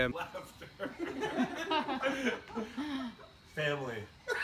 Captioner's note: all laugh